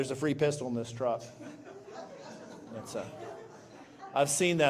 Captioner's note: laughter